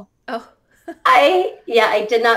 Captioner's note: laughter